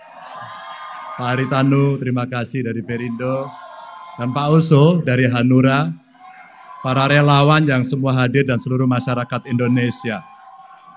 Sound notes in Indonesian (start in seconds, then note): 0.0 tepuk tangan; 3.4 tepuk tangan